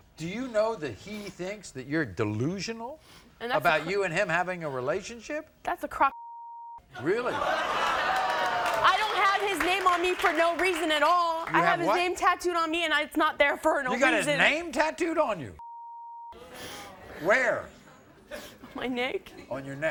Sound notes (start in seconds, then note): 7.0 crowd laughs